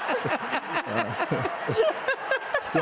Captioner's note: laughter